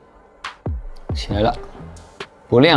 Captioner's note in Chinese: 电流